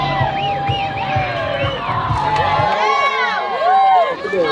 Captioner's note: cheering crowd